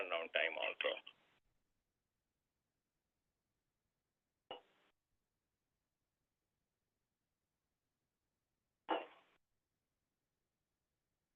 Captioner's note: silence